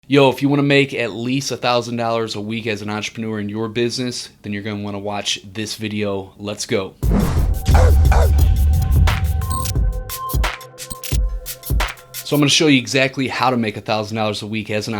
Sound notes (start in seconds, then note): 7.7 dog barks; 8.9 light music